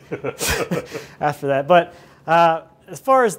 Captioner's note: laughing